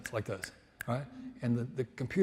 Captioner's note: snaps